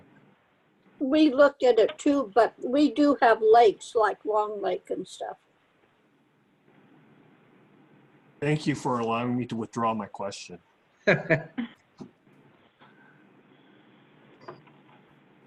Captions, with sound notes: - We looked at it too, but we do have lakes like Long Lake and stuff. - Thank you for allowing me to withdraw my question (laughs).